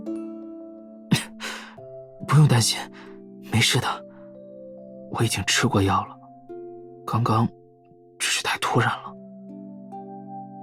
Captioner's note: cough